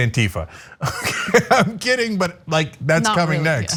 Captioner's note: laugh